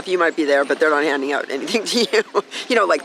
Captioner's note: laughing